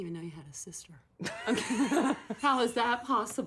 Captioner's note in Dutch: lacht